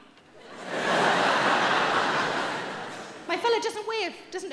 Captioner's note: audience laughing